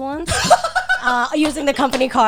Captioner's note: guys laughing